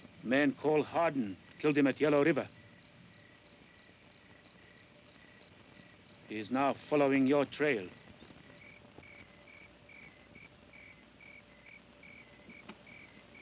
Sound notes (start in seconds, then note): none